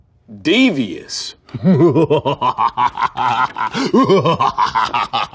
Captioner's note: dramatic laughter